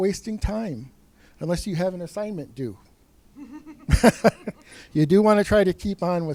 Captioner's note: laughs